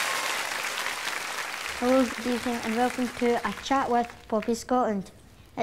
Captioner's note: audience applause